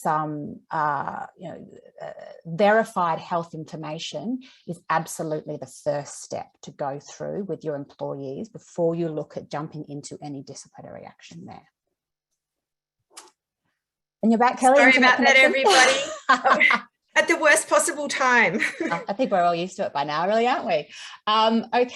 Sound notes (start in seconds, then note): 14.8 laughs; 18.6 chuckles